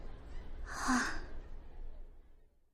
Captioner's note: sigh